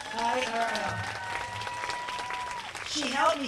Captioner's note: applause